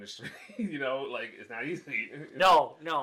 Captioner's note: laughs